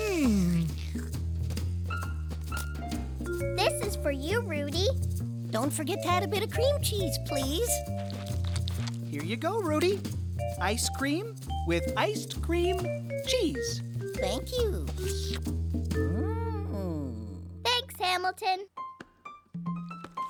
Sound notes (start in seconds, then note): 7.6 slurping